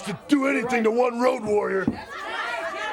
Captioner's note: crowd chatter